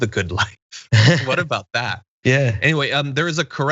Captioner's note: laugh